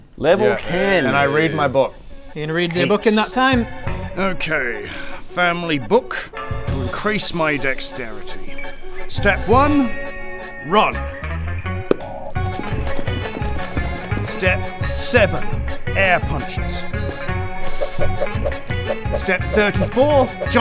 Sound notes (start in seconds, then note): 12.4 running noises; 17.9 air punching noises